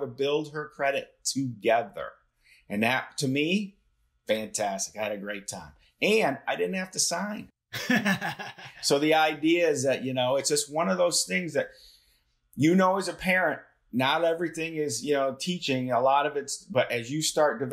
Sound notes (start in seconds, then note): 7.7 laughter